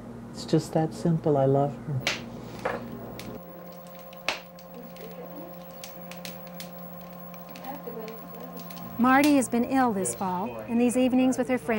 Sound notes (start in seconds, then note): 3.4 fire crackling; 9.0 voiceover